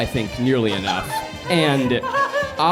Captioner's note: laughing